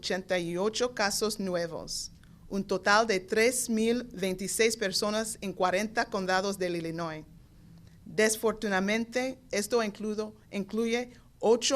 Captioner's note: speaking spanish